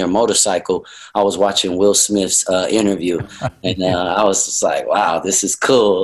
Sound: Sadhguru laughs

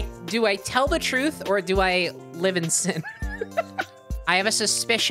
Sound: laughing

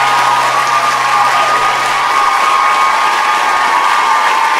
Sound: audience cheering; audience clapping

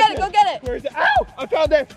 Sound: yelp

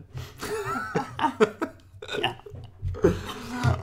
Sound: both laugh

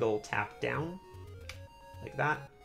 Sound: D-Pad clicks

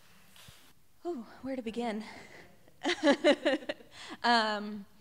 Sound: laughter

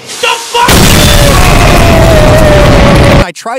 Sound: explosion

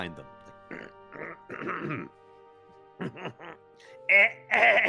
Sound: clearing throat loudly

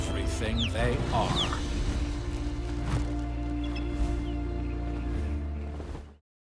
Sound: ospreys calling

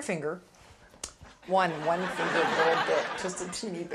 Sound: audience laughing

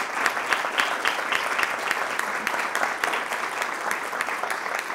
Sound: applause

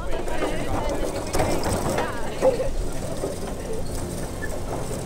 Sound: people chatter; cart rattles

